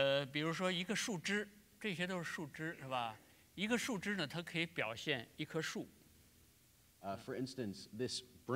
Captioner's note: speaking in Chinese